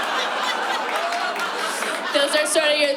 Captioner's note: laughter